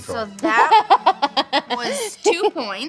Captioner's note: laughing